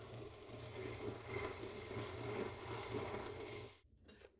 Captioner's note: machine grinding